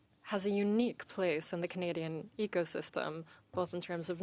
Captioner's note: speaking French